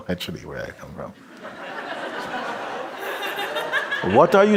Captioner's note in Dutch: gelach